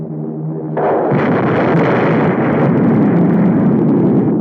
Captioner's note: explosion booming